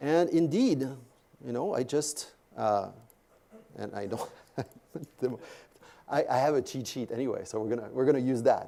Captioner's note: laugh